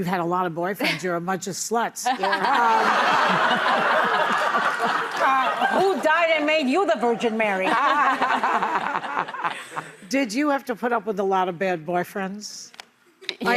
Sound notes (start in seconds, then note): 2.1 audience laughing; 7.6 laughing